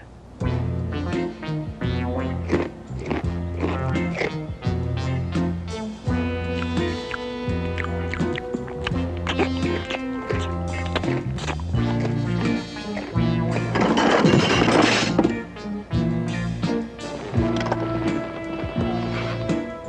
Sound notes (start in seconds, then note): 13.6 clattering